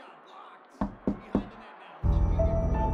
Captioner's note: knocking on door; suspenseful music